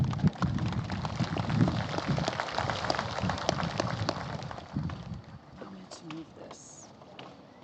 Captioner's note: applause